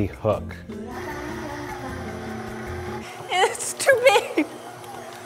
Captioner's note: mixer whirring